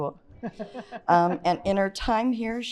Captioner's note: chuckles